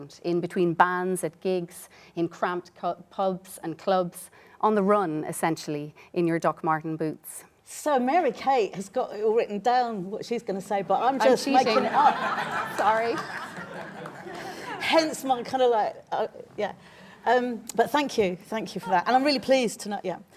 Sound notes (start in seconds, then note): 11.4 laughter